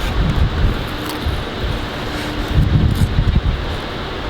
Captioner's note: crunching